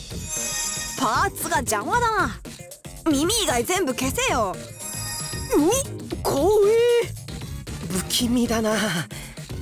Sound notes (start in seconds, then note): 6.0 shudder